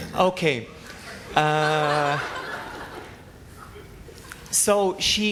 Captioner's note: laughter